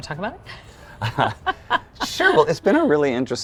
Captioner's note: both chuckle